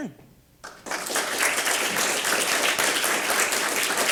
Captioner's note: applause